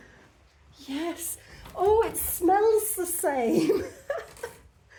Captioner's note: laughing